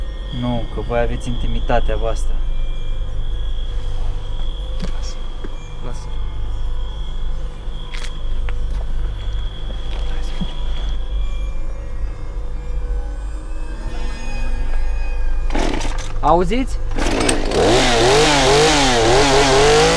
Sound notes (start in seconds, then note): 4.6 whispering; 9.9 whispering; 16.9 sound of chainsaw starting